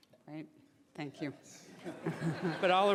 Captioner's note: laughing